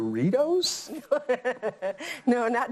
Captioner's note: laughs